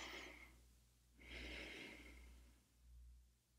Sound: inhales deeply; exhales

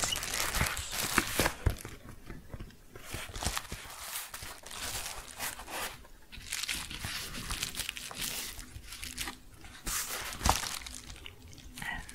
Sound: tapping and crinkling

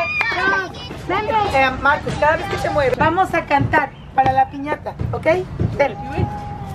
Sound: speaking in foreign language

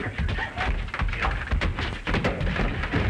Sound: punching

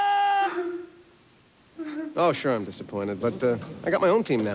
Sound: weeping

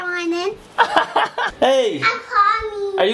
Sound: laughs

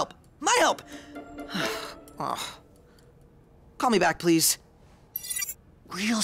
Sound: groans

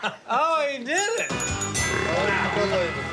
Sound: bell rings; belching

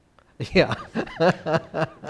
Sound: laughs

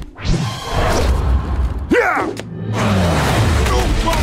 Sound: grunting

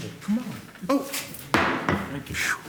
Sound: gavel

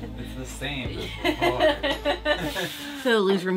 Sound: laughing

